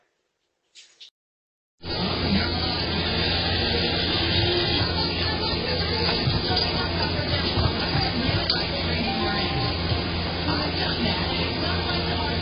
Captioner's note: "Tamron Hall" show plays in background